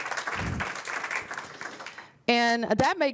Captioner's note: applause